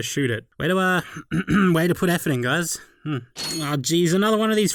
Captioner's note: ahem